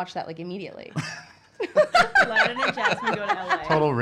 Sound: laughing

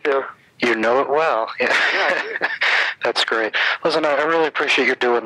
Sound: laughing

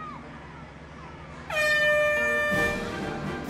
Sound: buzzer sounds

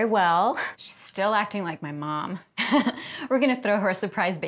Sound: laughs

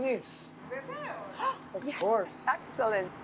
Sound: speaking Greek; gasps

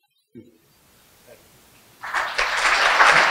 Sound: clapping

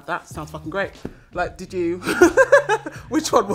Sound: laughter

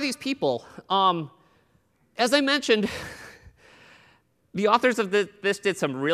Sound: laughter

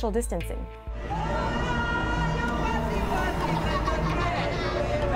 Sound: distant chattering

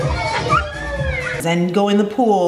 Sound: children laughing

